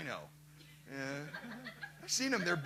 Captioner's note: laughter